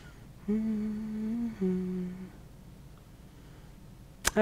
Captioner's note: hums softly